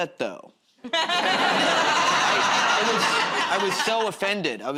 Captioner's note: laughter